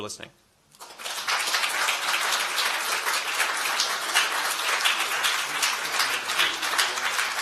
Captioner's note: applause